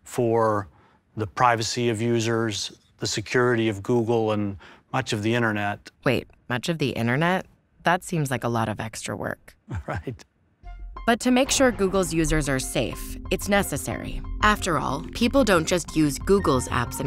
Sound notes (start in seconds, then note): 9.6 laughs